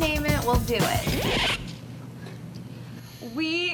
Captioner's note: record scratch